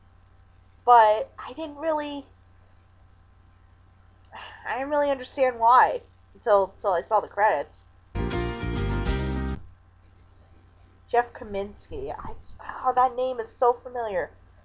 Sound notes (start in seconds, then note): 4.4 sighs